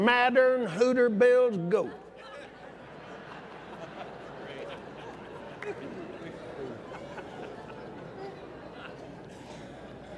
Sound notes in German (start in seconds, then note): 2.9 lacht